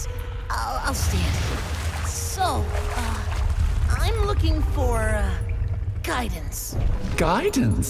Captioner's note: splashing and rumbling as she pulls her claws back